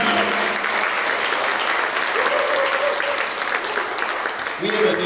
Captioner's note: applause